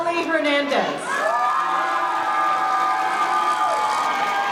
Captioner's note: crowd cheering